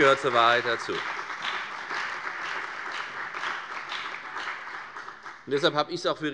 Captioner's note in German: Beifall bei der FDP und bei Abgeordneten der CDU